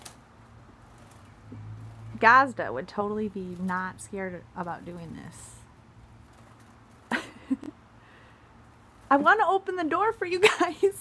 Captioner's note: lauging